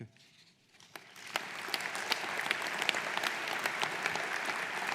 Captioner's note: audience applauding